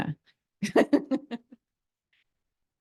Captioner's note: laughing